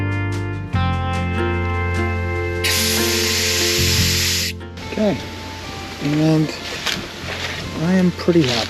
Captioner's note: drill whirring